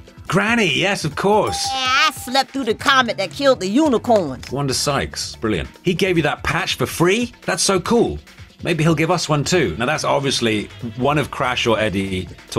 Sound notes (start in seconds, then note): 1.5 dinging